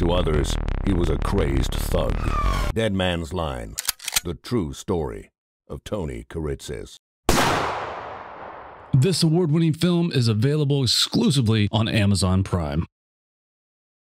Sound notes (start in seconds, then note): 7.3 gun fires